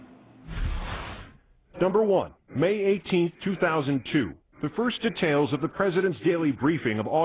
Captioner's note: voice-over